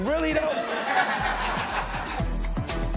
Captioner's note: laughter